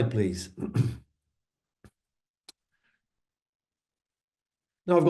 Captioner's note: coughing